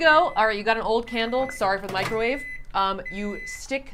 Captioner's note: microwave beeping